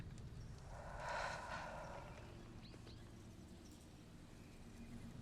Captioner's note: Jill exhales